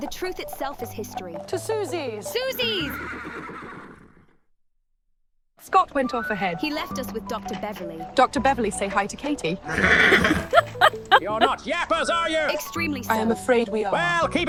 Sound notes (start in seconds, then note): 2.7 horse neighs; 9.7 horse neighs; 9.7 Autumn chuckles